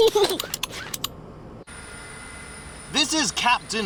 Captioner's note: snorts; giggles